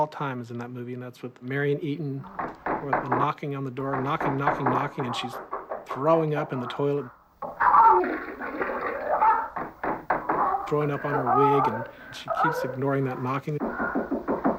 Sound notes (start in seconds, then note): 7.4 retching; 9.2 knocking